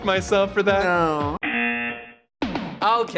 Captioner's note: buzzer